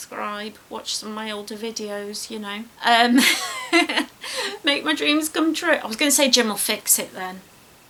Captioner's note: laughs